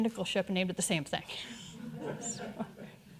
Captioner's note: audience chuckling